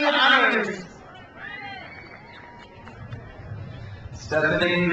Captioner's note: crowd cheers